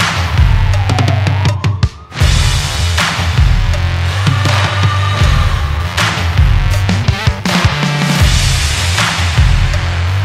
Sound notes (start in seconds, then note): 0.6 sirens